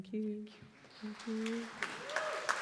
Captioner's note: appreciative applause: hand-clapping, vocal exclamations